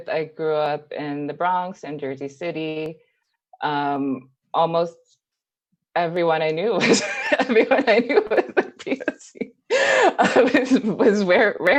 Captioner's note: laughs